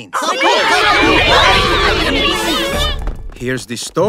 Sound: yelling

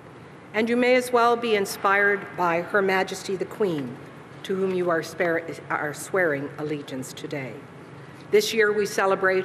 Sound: speaking alternate language

